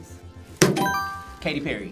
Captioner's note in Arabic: قرعات الجرس